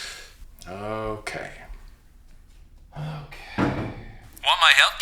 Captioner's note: sighing